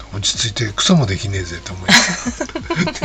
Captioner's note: laughs